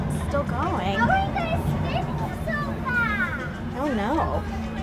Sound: child speaking in background

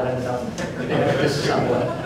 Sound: laughter

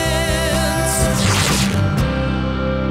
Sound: tearing

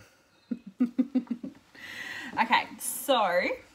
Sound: laughs

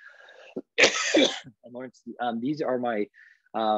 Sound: coughs

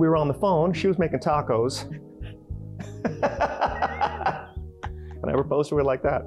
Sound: laughter

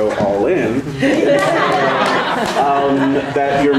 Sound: people laughing

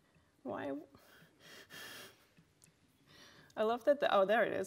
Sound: breathes heavily

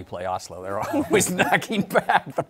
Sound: laughing

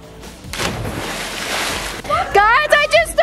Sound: splashing

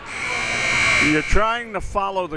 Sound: buzzer

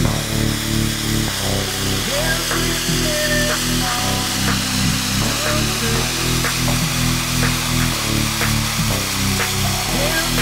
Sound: for sale music; sound of Merlin III for sale taxiing up to camera

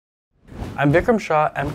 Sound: air whooshing

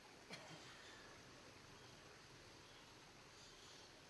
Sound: coughing

